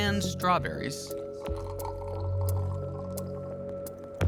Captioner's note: liquid dripping